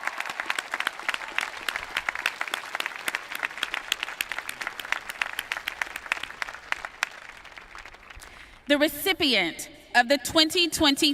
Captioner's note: applause